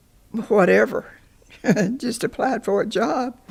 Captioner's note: chuckles